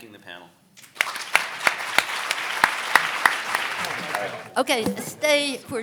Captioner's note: audience applauding